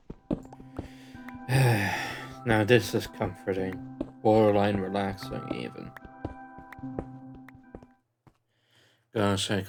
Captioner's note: sigh